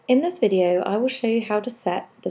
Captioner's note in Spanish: Voz en off